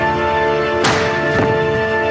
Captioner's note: suppressed gunshot